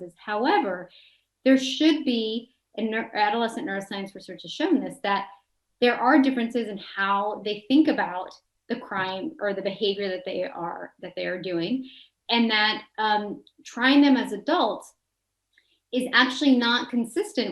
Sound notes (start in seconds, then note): none